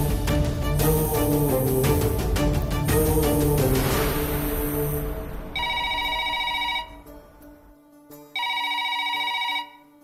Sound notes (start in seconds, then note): 5.5 Phone rings; 8.3 Phone rings